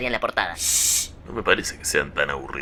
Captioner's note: shhhh